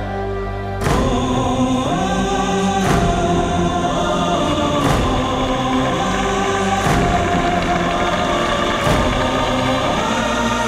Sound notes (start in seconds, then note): 7.2 applause